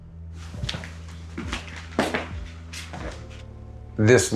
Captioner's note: footsteps tapping